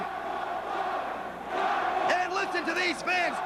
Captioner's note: crowd cheering